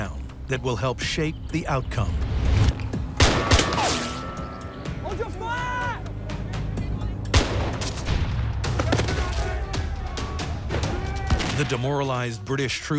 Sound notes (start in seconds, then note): 3.2 gunshots; 7.3 gunshot